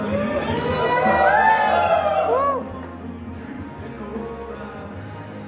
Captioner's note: cheers